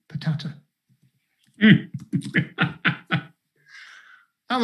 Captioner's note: laughs